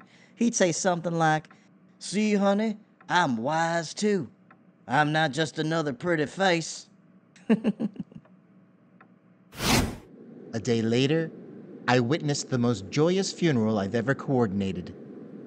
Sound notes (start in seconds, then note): 7.4 giggles; 9.5 swoosh